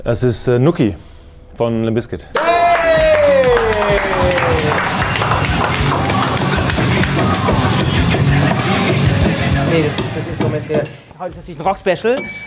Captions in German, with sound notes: Das ist "Nookie" von Limp Bizkit. Yay! (Jubel) (Fetzige Rockmusik) Nee, das ist so mit der ... Heute natürlich Rock-Special.